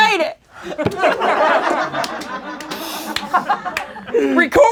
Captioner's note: laughing